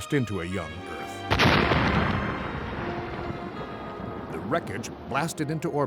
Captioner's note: asteroid crash